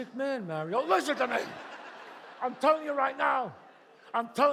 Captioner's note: audience laughs